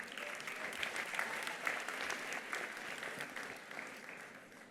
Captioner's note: attendees applauding